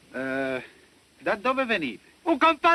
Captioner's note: speaking italian